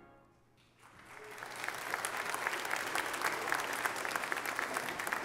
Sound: congregation clapping

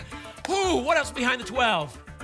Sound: exhales loudly

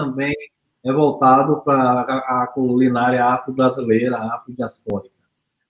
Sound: speaks portuguese

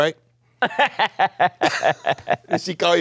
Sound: Viola laughs

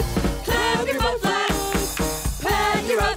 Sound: clap clap clap

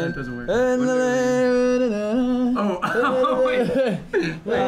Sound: humming; laughing

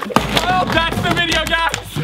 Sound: items clatter

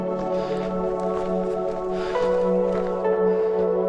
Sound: panting

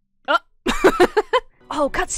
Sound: laughs

